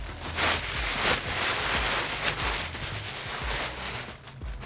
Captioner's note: bag crinkling